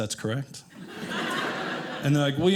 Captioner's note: audience laughing